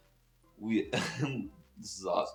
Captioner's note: laughs